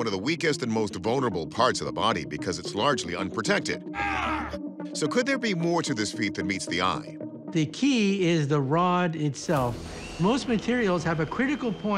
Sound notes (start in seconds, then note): 3.9 man groans